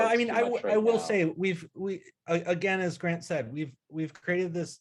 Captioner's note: none